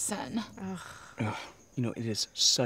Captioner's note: scoffs; scoffs in agreement